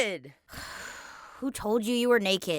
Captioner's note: sighs